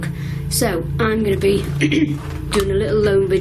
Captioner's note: clears throat